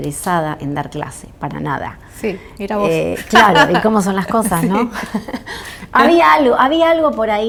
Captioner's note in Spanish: risas